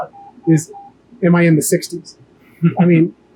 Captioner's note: laughs